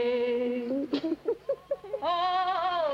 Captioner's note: giggling